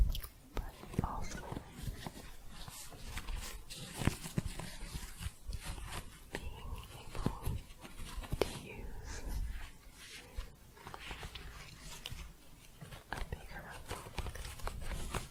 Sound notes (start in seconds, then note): 2.0 shuffling, scratching